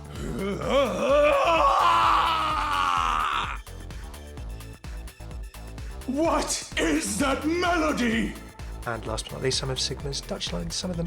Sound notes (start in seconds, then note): 0.2 screaming